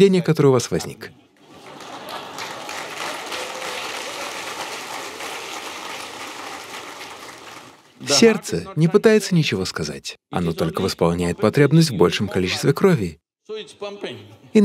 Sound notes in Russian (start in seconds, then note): 4.6 Смех/Аплодисменты